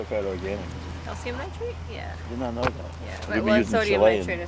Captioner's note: group chattering